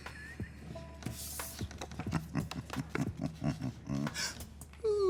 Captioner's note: chuckles